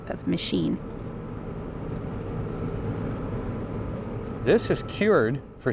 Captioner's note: engine rumbling